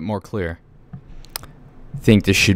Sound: adjusts microphone

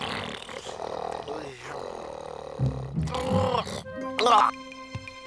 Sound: beavers snoring; snoring

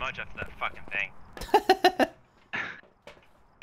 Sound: laughing

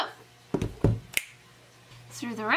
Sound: snaps

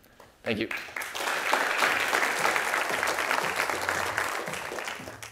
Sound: applause

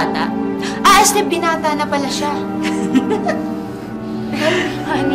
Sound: laughs

